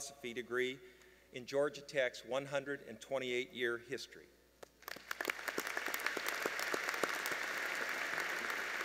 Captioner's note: applause